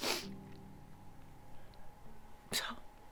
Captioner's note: sniffing